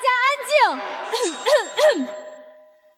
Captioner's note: cough, cough, cough